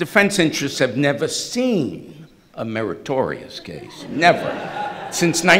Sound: everyone laughing

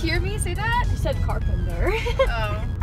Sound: laughs

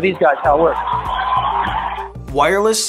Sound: audience cheering

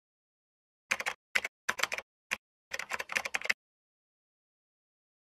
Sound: keyboard clacking

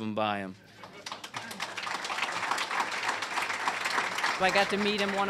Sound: applause

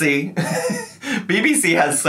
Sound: laughing

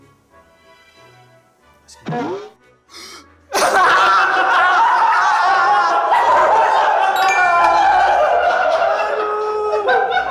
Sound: laughing

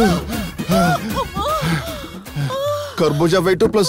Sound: panting

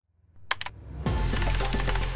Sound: mouse clicks

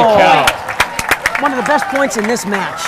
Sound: audience applauding and cheering

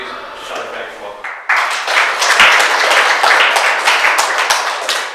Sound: audience applauds

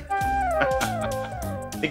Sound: laughs

